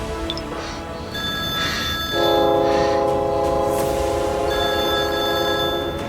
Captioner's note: phone ringing and train approaching